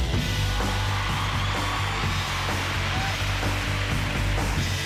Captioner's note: cheering